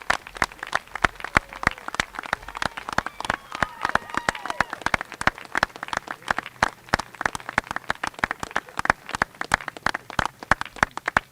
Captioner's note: applause